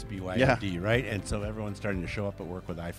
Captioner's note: laughs